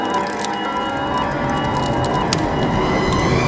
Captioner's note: fire crackling louder